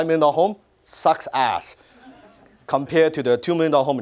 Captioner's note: audience laughter